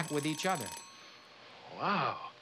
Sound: alarm ringing

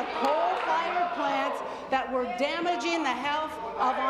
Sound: applause

